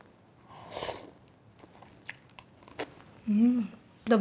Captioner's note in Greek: ήχος απο το φαγητό που ρουφάει